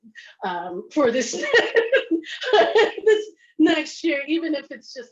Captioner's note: laughs